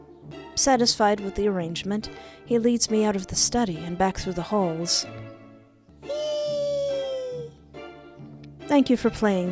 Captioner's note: squeals of joy